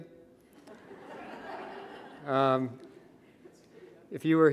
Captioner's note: audience laughing